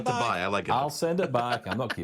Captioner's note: laughs